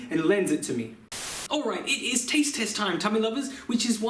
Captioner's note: Static